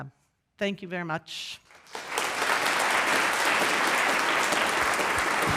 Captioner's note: audience applauding